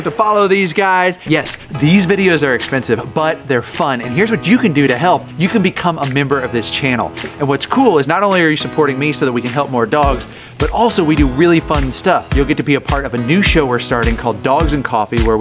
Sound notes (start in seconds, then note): none